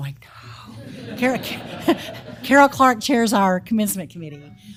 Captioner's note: laugh